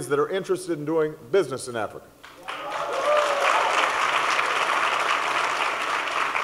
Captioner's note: applause